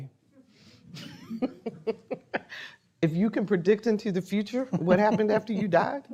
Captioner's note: laughing